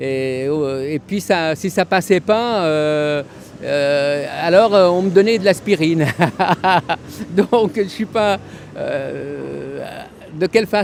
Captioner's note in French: rires